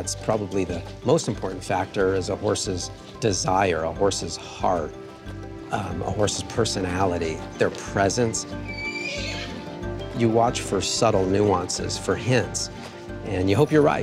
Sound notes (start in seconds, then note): 8.5 whinnies